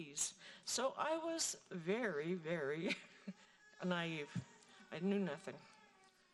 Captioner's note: laughing